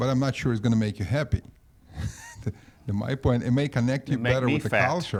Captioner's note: laughs